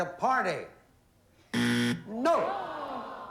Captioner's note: buzzer